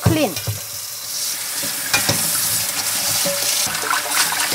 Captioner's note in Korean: 수돗물 소리